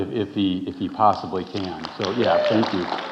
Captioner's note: audience applauding